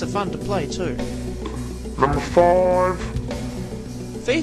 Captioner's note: deep voice